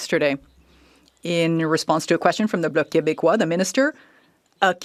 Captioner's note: speaking French